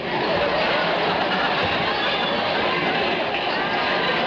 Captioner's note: audience laughing